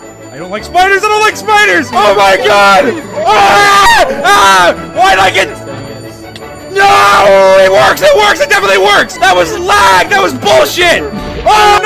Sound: lots of screaming

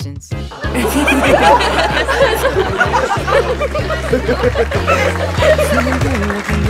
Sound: laughing

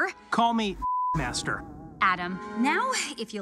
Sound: beep

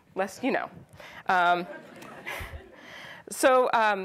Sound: audience laughs

